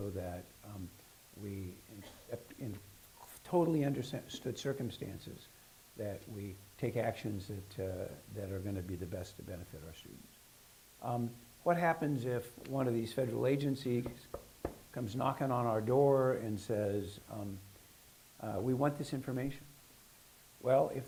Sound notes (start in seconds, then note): 14.0 knocking sound